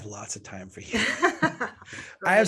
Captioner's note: both laugh